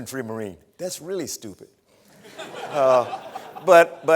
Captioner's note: laughter